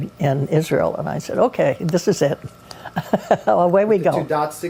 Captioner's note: laughs